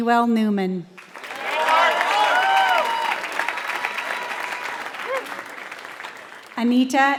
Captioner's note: applause